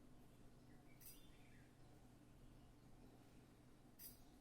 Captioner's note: birds singing